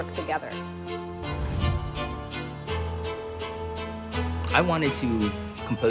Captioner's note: air whooshes